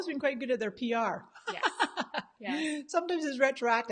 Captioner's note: laughs